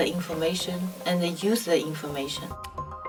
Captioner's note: voiceover